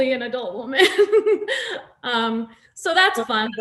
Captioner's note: Nasim laughs